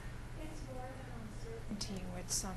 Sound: voiceover

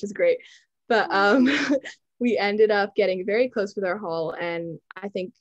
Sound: chuckles

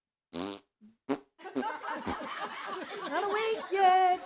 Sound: audience laughs

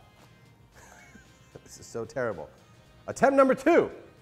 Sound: laughs

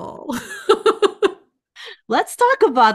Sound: laughs

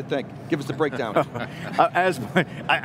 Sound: group laughs

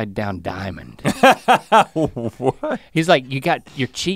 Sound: laughs

